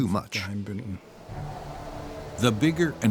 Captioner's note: wind howling